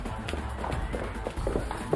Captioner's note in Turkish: Ayak sesi